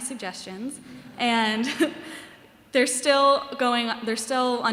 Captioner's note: laughter